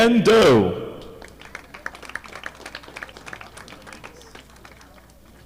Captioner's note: audience clapping